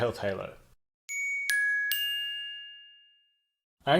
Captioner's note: dinging